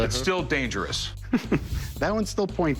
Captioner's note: chuckling